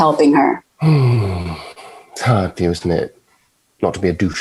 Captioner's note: sighing